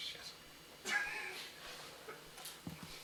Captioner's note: laughter